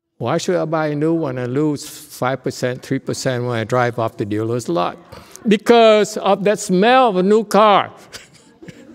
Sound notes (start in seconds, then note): 8.0 laughs